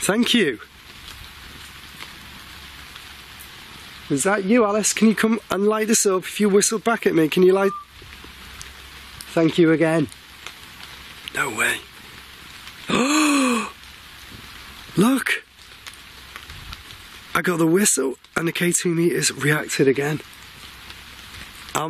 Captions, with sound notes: Thank you! Was that you Alice? Can you come and light this up if you whistled back at me? Can you light-- (whistling) Thank you again. No way. (gasps) Look! I got the whistle, and the K2 metre has reacted again.